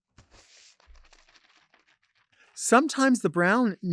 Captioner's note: napkin rustling